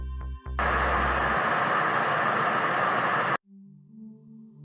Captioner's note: static buzzing